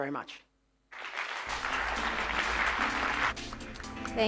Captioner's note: applause